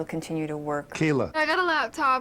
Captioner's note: voiceover